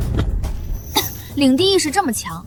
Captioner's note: cough